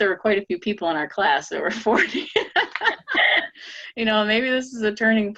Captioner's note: laughing